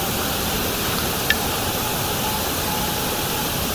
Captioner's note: faint howl